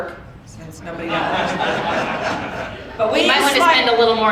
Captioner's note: audience laughing